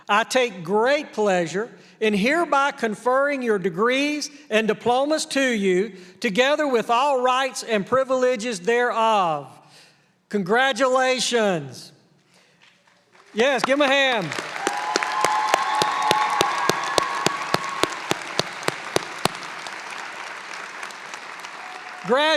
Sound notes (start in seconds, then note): 15.6 applause